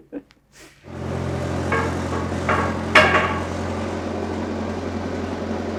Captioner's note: forklift engine rumbling